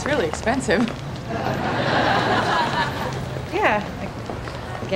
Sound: audience laughing

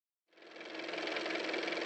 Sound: car motor

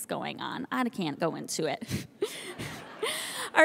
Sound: laughing; audience laughing

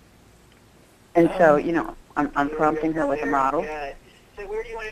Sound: voiceover

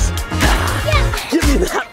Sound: gasps; hisses; giggles

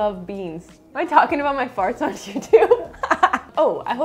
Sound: laughs

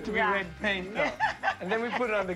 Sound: laughs

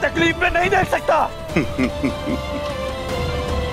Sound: laughs

